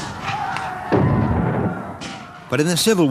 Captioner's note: guns bang; shouting